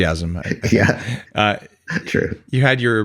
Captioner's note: laughs